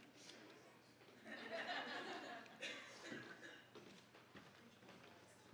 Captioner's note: audience laughing